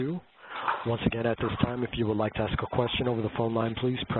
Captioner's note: none